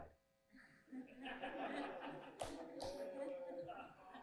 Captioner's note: laughter